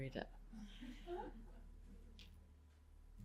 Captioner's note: laughter